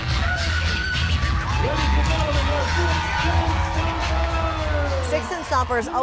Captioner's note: cheers and applause